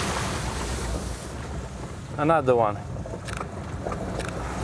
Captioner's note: camera shutter clicking